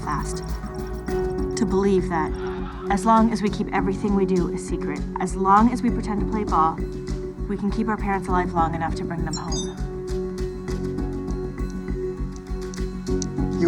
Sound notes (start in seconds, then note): 9.2 text message chimes